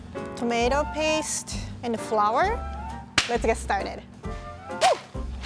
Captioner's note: claps